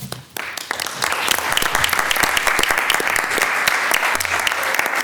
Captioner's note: attendees applaud